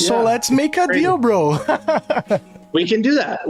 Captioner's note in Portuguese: risadas